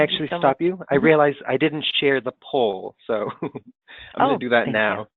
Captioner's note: chuckles